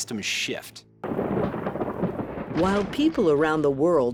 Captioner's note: thunder booming